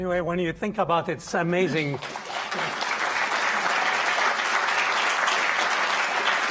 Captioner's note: audience applauding